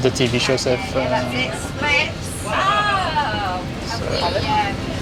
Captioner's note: background chatting